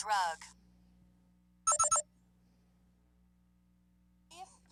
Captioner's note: beeping